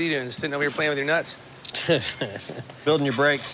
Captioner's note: chuckles